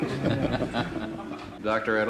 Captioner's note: laughing